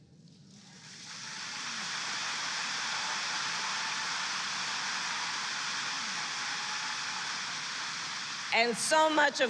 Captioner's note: applause